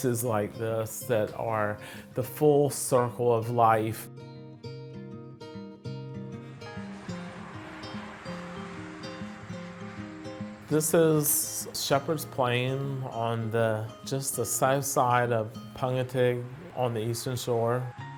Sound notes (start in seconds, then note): 4.5 bright upbeat music; 6.3 traffic buzzing